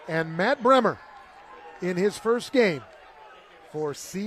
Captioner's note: applause